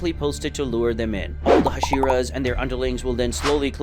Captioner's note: normal tone